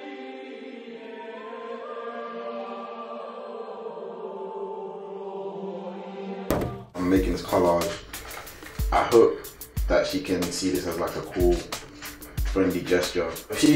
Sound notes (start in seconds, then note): 0.2 peaceful music; 6.5 bump